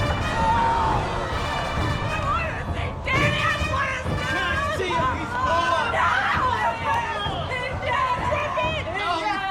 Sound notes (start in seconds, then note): 0.0 dark intense music; 2.8 both screaming indistinctly